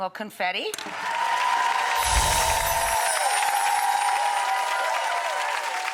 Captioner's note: crowd cheering and clapping